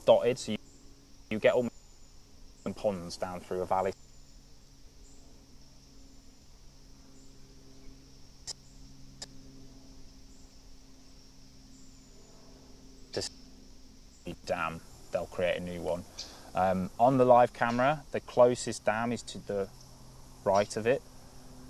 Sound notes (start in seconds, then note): 5.0 break in transmission